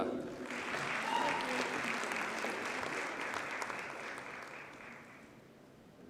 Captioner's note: audience cheers and applauds